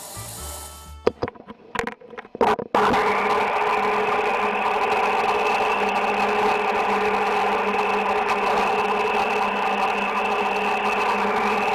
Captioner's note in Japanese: 聴診器の音